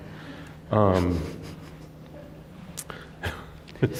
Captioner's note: chuckles